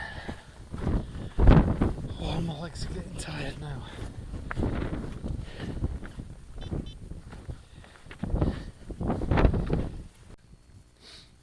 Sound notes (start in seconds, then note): 6.6 GPS beeps